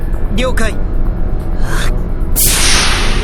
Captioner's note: powering up